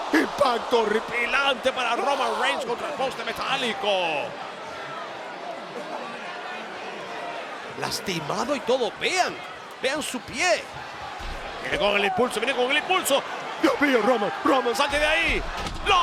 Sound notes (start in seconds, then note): 4.8 applause